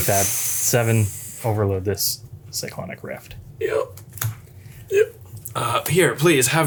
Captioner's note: dying sounds